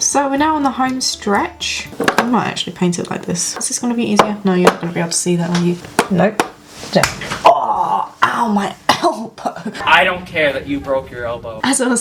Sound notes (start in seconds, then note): 6.6 whack